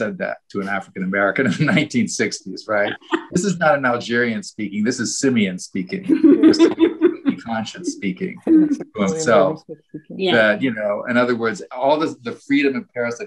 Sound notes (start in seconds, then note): 5.8 panelists laughing